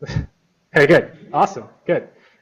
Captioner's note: laughs